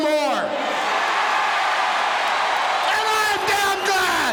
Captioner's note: audience cheering